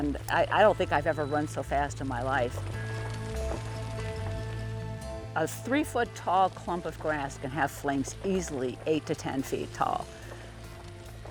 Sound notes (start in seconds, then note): 3.4 fire crackling; 3.4 upbeat, exciting music